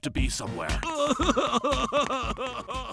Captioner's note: sexy crying